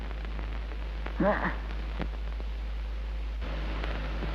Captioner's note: mother moans